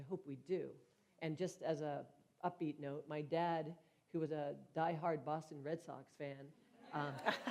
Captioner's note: laughter